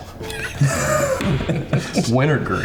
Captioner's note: all laughing